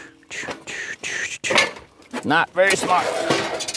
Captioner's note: metal Clanking